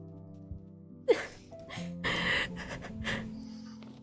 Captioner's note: crying